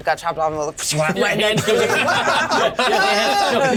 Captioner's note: laugh